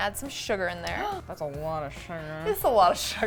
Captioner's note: gasps